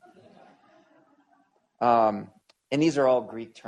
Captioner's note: laughter